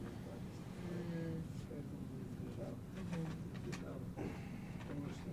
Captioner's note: mumbling